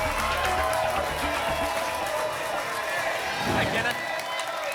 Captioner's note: applause and cheering cont